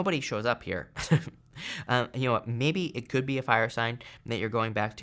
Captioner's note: chuckles